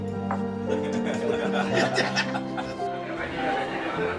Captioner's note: laughter